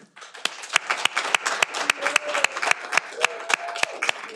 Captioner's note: audience applauding